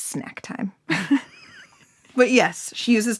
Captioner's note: laughing